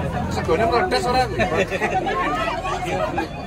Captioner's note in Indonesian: tertawa